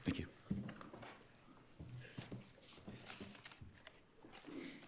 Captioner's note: papers rustling